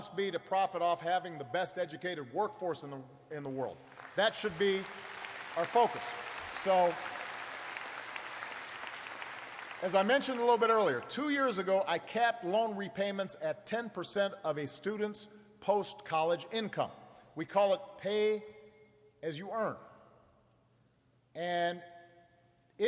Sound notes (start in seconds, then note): 7.4 applause